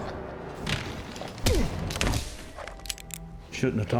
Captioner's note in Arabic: صوت ارتطام، صوت إطلاق نار